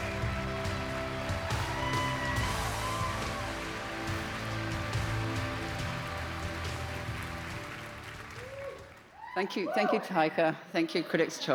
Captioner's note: cheers and applause